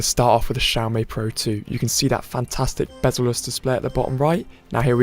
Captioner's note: countdown ticks down